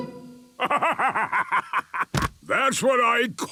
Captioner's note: bursting laughter